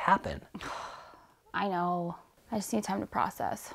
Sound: sighs

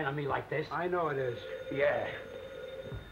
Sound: phone ringing

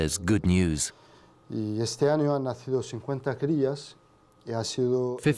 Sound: speaking Greek

